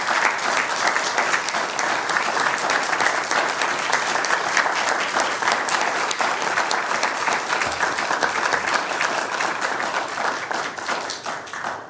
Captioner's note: applause